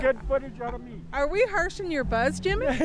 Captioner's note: laughter